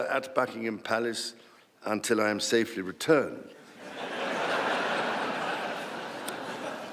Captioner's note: laughter